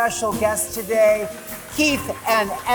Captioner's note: audience applauding